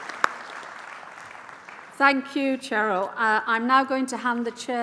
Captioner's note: applause